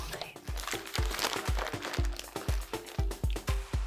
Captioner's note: bag crunching; upbeat music